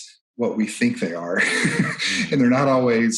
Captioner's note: chuckles